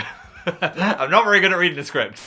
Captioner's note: chuckling